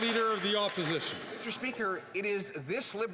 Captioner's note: some Applause